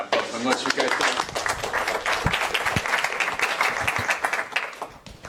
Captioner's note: applause